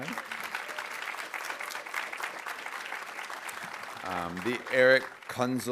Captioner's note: audience applauding